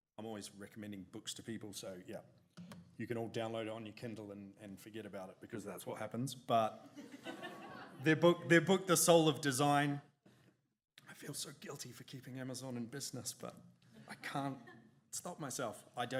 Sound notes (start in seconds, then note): 7.0 audience giggles